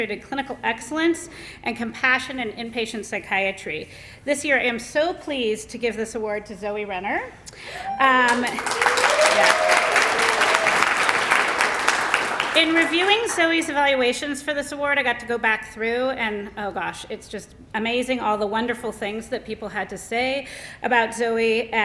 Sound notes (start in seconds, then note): 8.2 applause